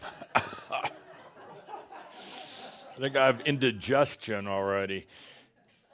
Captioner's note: coughs and some laughter